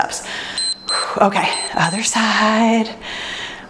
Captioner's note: timer beeps